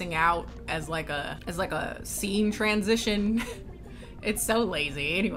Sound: laughs

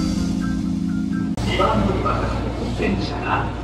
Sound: the announcement in Japanese

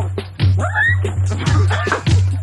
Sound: dog yelps; laughter

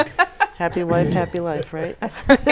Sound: laughing

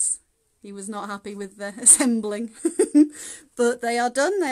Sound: laughing

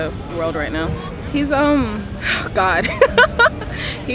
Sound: chuckles

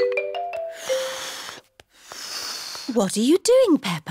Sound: failed whistle

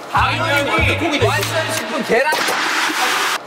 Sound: clap clap

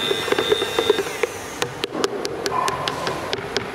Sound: buzzing stops

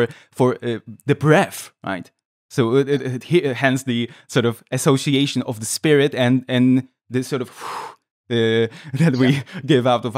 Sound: sound of blowing air

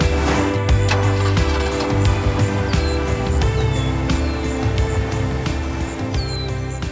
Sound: engine starting, birds chirping

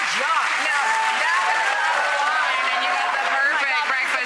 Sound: audience applause

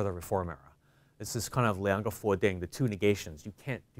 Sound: speaking in foreign language

